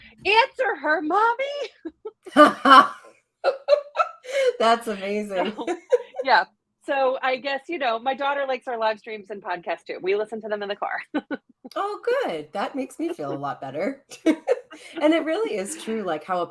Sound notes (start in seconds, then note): 3.4 laughing